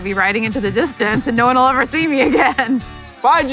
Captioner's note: laughs